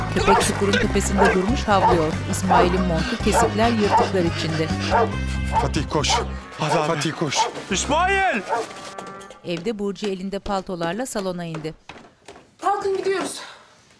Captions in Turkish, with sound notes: (Köpek havlama sesi) (Nefes sesi) -Fatih koş! -Hadi abi. -Fatih koş! -İsmail! (Ayak sesi) Kalkın gidiyoruz.